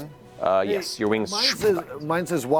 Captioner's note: retracting sound